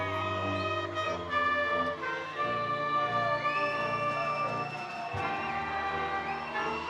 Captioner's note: triumphant music; attendees cheering